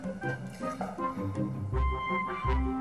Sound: sighs

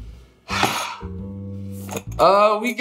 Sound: sighs

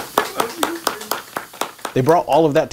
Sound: applauding

